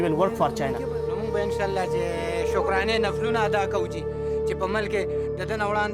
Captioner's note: speaks in foreign language